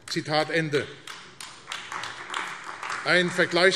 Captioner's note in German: Beifall AfD